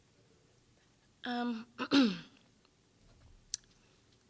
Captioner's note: clearing throat